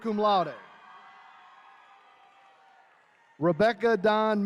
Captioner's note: attendees cheering